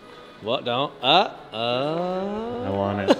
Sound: stammers and laughs

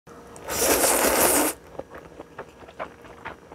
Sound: slurpppp

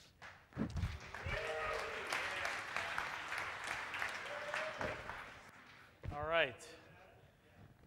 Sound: audience applause and cheering

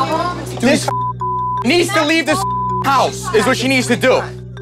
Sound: beep

